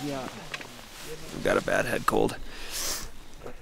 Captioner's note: sniffs